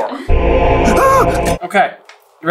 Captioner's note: yelps